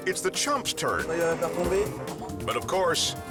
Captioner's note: prankster speaking foreign language